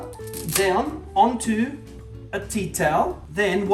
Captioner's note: speaking Italian